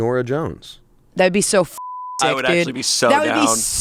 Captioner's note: beep